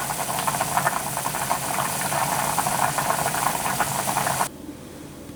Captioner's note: bubbling